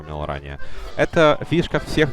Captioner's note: inhale